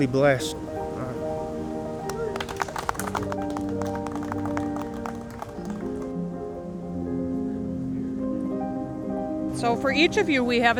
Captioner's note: applause